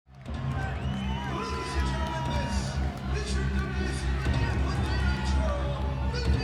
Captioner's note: announcer vocalizing; crowd cheering